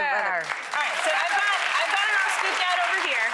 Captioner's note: audience applause